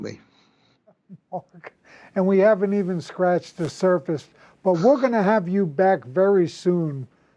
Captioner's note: laughs